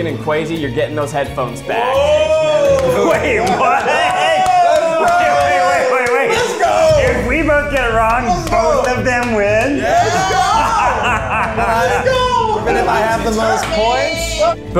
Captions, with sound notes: and Kwesi, you're getting those headphones back. (all exclaiming excitedly) - Let's go! - If we both get it wrong, both of them win? - Even if I have the most points?